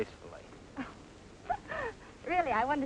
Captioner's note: chuckles